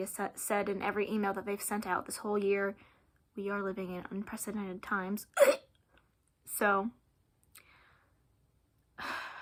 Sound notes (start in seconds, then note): 5.4 gag noise